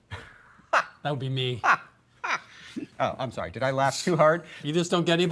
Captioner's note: laughs